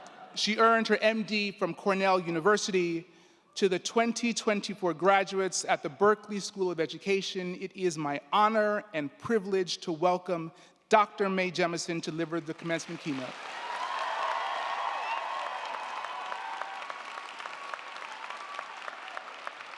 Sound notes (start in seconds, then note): 12.5 crowd clapping; 13.2 crowd cheering